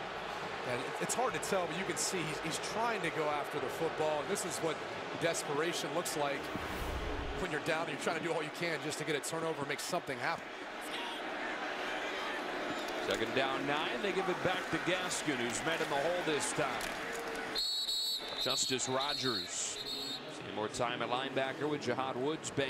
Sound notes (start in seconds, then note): 17.5 whistle